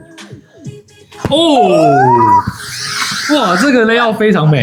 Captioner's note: exclaims